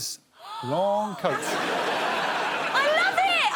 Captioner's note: audience laughing